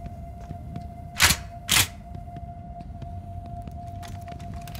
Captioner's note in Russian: звук передёрнутого затвора ружья